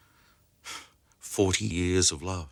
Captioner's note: Harry sighs